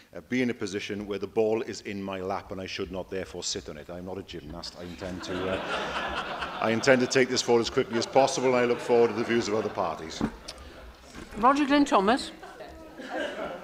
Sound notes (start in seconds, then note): 4.9 laughter